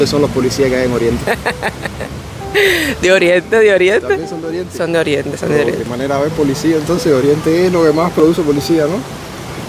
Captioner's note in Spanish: risas